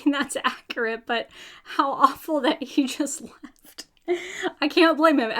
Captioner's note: laughs